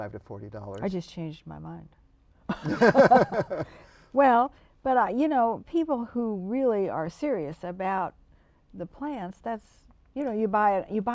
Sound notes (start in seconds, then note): 2.5 laughter